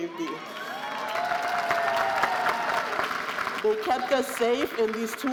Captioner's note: audience cheering and applauding